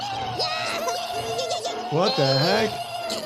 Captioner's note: Kenny Screaming